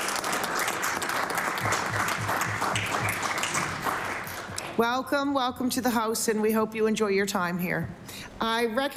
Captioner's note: applause